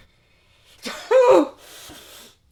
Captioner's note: cries